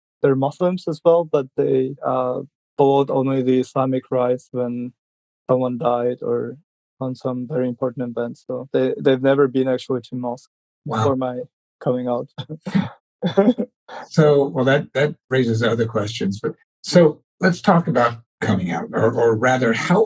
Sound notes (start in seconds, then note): 12.3 laughs